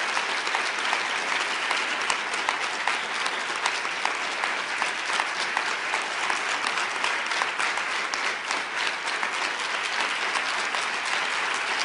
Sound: applause

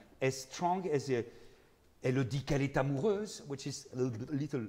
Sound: speaking in foreign language

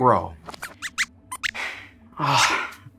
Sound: squeaks squeaks

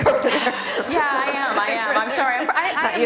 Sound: laughter

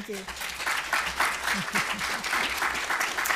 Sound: applause

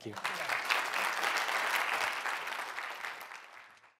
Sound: audiences clapping

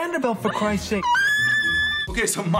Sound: cries

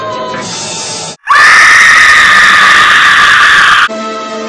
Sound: screaming

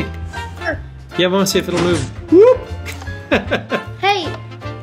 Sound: laughing

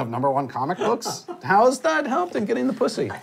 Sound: laughs

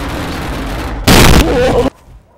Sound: 𝗨𝗡𝗛𝗢𝗟𝗬 𝗘𝗫𝗣𝗟𝗢𝗦𝗜𝗢𝗡 𝗦𝗢𝗨𝗡𝗗

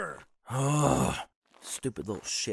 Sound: groans

